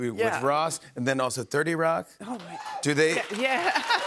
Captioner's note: cheers and applause